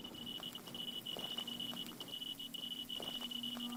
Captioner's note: sounds of a Geiger counter